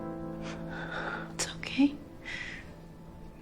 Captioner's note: whispering